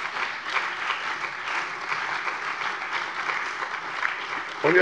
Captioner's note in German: Beifall bei der CDU, der SPD, dem BÜNDNIS 90/DIE GRÜNEN und der LINKEN